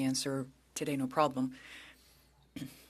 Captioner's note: speaking French